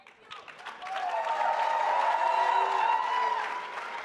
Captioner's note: audience applauds